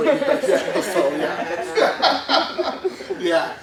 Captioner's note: laughs